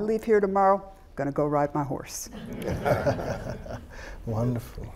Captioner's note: all laughing